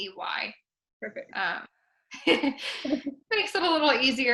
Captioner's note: laugh